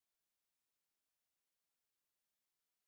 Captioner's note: none